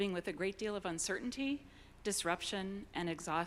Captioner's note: none